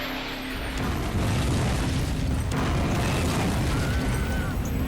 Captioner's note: explosion booming; spectators shouting